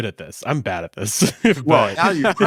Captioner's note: laughs